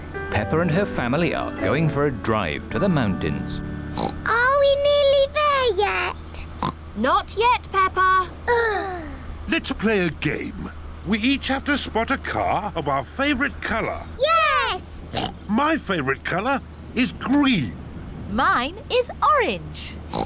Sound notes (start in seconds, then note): 3.9 oinks; 6.6 oinks; 8.5 both sigh; 15.1 oinks; 20.0 oinks